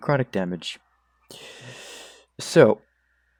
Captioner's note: inhales atmosphere